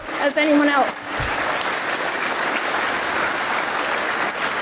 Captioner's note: audience applauds